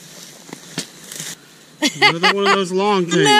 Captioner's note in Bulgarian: смях